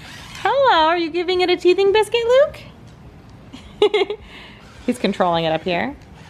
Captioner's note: laughs